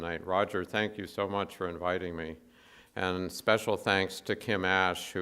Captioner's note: none